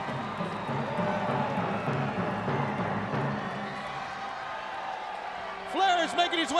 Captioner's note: crowd cheering